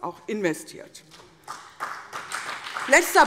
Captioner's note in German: Beifall CDU und BÜNDNIS 90/DIE GRÜNEN